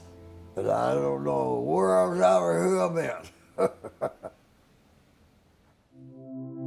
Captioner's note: laughs